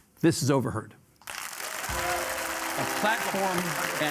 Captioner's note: audience applauding